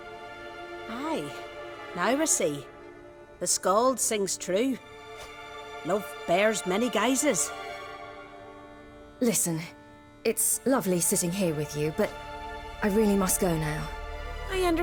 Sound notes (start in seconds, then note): none